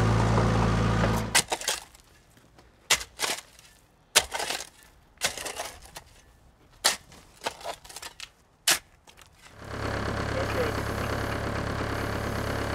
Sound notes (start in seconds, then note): 2.8 shovel scraping dirt